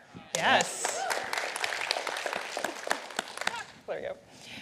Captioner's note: applause